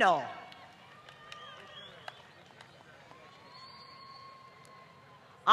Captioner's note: applause